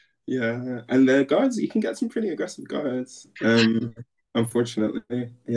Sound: laughter

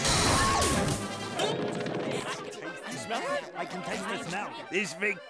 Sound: chattering

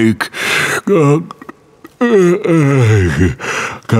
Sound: yawning

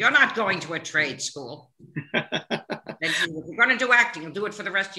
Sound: laughing

